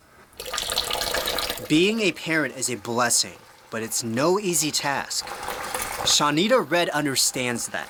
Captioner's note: mother turns on water sink faucet